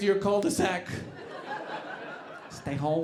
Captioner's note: audience laughing